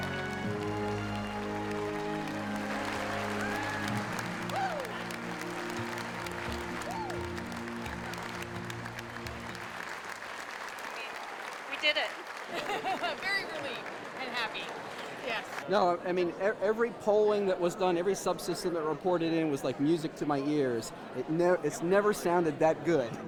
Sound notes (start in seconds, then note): 5.1 cheering and applause continue; 12.5 laughs